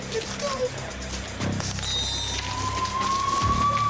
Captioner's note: sirens wail